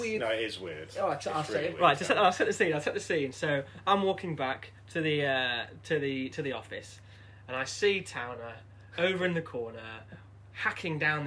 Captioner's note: laughter